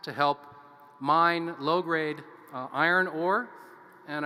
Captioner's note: none